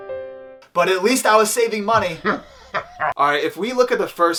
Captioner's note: haha!